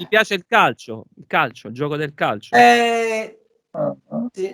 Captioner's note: talking in italian